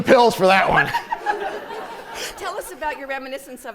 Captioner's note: laughter